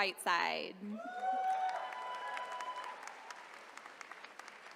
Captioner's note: attendees cheering